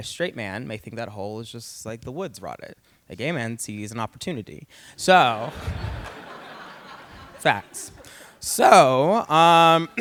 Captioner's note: laughter